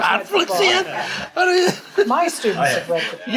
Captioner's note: chuckles